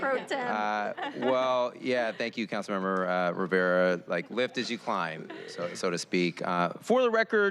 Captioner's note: laughter